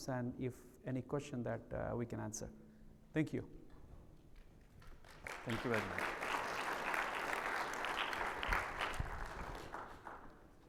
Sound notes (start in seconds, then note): 7.8 attendees applaud